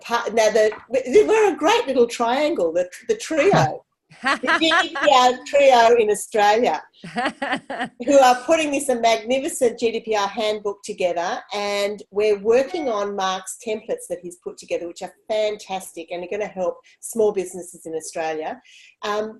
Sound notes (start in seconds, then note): 4.1 laughs; 7.0 laughs